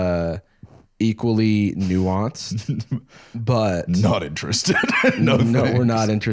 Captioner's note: laughs